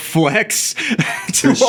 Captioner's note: laughing